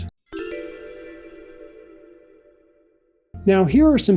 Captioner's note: chimes